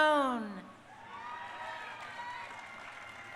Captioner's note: crowd cheering